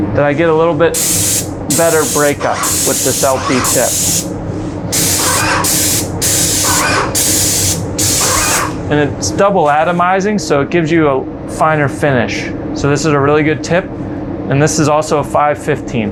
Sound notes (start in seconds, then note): 5.0 spray gun hissing; 5.0 sprayer whirring